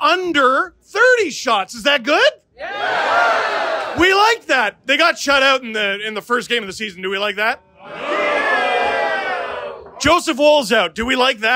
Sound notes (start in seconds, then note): 9.3 booing